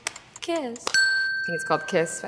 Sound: clicks

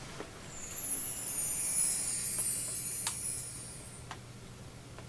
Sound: bright and magical sound effect

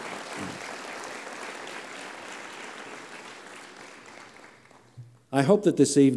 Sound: applause

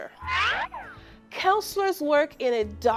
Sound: Acme siren whistling

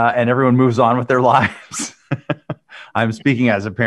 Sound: Ed laughing

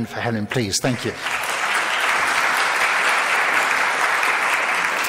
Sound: audience claps

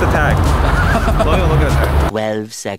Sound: laughter

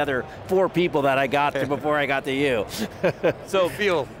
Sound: laughs

